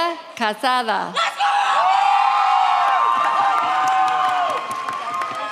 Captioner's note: audience cheers